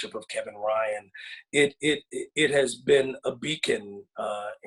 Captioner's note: none